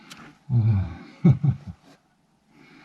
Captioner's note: laughs